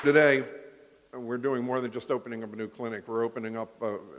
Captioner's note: applause